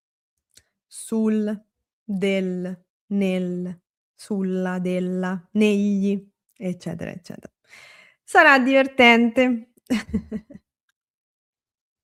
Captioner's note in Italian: risate